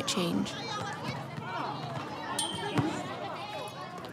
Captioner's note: people chatter